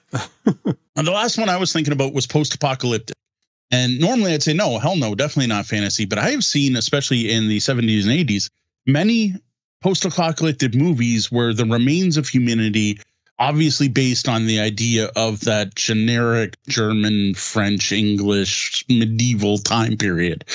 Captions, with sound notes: Yeah. (laughs) And the last one I was thinking about was post-apocalyptic. And normally I'd say, no, hell no, definitely not fantasy. But I have seen, especially in the 70s and 80s, many post-apocalyptic movies where the remains of humidity, obviously based on the idea of that generic German, French, English, medieval time period,